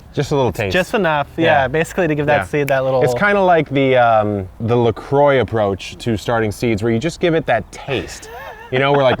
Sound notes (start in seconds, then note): 2.5 snaps; 7.8 laughs